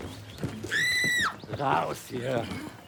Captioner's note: A woman screams